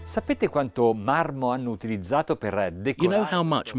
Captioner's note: speaking Italian